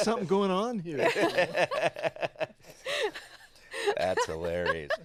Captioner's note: everyone laughing